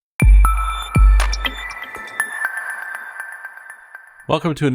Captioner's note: electronic tones